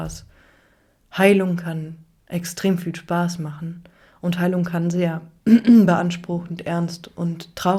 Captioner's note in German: räuspern